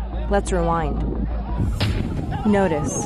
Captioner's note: gunfire